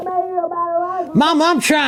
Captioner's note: muffled yelling